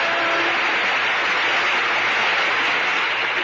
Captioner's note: applause